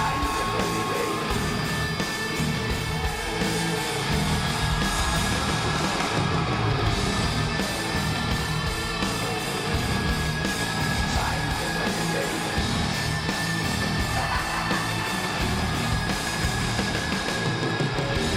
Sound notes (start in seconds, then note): 5.0 audience continues cheering; 14.8 laughs